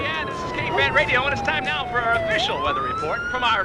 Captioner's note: voiceover